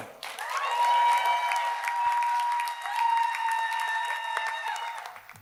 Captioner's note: audience cheers and applauds